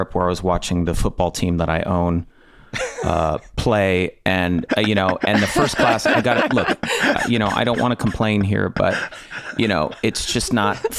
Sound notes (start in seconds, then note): 6.6 Rob and Megan laughing